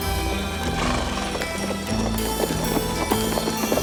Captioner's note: horse snorts; hooves clop